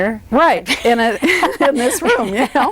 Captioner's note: laughs